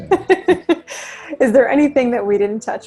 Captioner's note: laughs